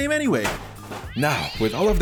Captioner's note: cat screaming sound